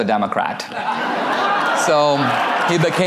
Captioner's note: audience laughter